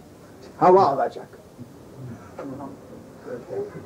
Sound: taking air

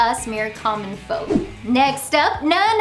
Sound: graphics whoosh

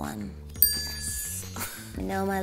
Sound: bell dings

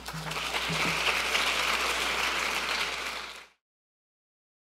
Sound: audience members applaud

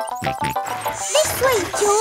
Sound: george snorts

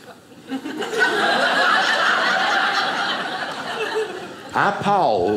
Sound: audience laughing

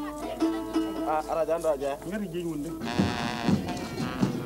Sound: non-english speech

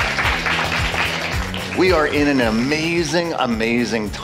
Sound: applause

